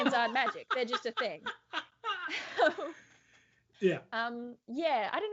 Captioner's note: laughs out loud